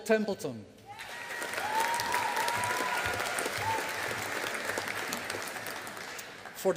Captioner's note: audience applauding